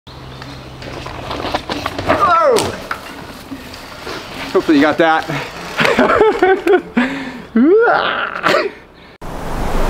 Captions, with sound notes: - Ooh! Hopefully you got that. (laughs)